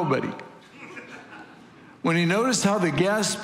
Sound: congregation laughing

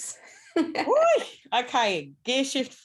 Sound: laughs; whoops

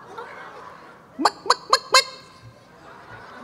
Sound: clucking; audience clucking

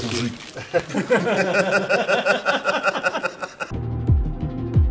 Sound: смех

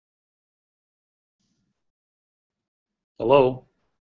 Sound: silence

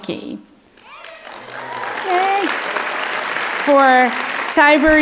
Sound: audience clapping

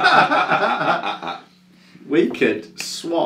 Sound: both men laughing

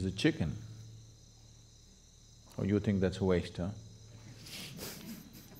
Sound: laughs

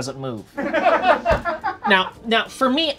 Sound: people offstage laugh

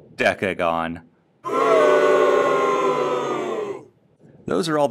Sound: much-deserved iMovie "crowd booing" sound effect

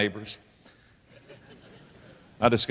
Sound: audience laughter

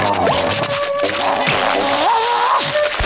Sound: grunting

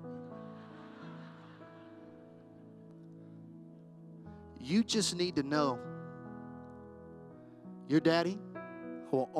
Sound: laughter

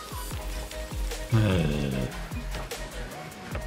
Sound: groans

